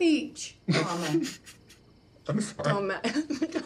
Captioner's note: Mitch snickering